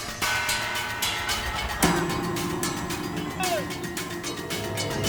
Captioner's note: cheering